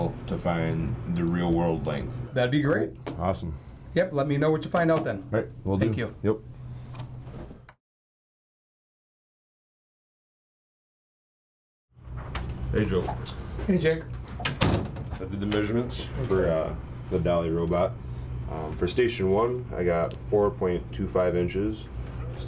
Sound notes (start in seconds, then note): 14.1 door closes